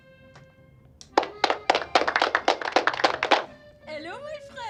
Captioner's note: applause plays